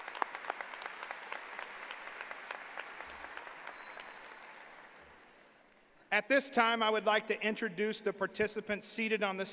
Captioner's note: applause